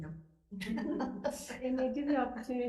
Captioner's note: laughing